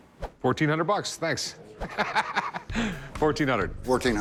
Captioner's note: laughs